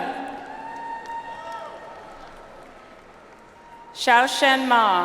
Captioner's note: audience applauds